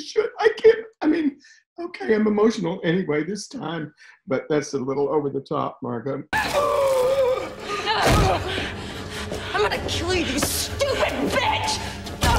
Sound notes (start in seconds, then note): 7.9 suspenseful music; 8.0 body slams; 8.2 gasps; 11.7 grunts